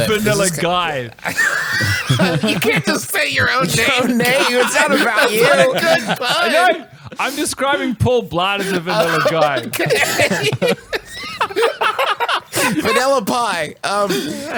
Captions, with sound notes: - Vanilla Guy. (laughs) - You can't just say your own name, Guy. - It's not about you. - That's not a good pun. - I'm describing Paul Blart in Vanilla Guy. (laughs) - Vanilla Pie.